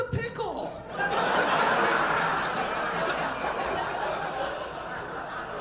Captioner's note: audience laughing